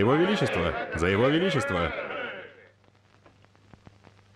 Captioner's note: group chattering